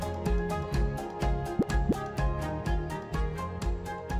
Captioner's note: graphic pops